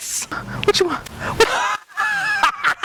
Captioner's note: laughing